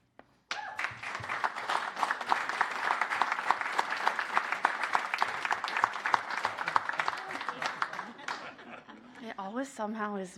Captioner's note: applause